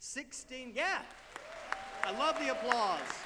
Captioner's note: audience applauding